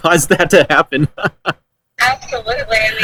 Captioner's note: laughs